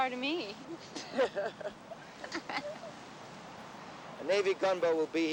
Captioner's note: everyone laughing